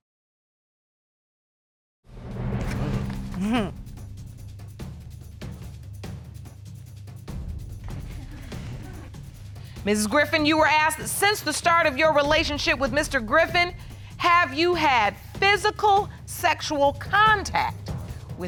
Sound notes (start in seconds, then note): 2.7 chuckles